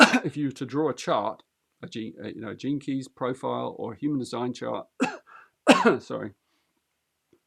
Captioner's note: clears throat; clears throat